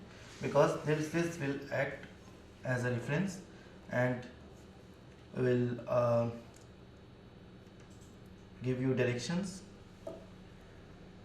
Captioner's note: click